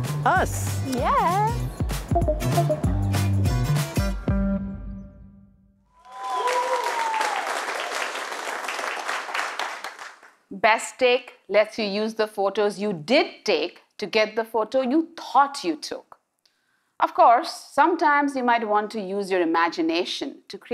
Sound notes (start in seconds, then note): 10.5 cheers and Applause